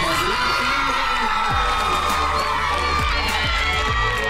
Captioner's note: team cheers